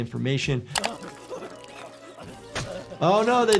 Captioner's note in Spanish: Lloriqueo de nuez